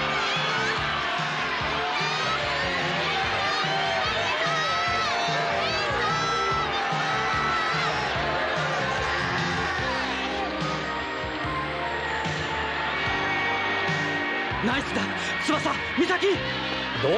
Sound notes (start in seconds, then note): 3.7 applause